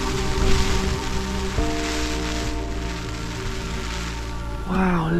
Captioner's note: rain on tent